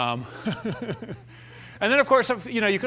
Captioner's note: laughter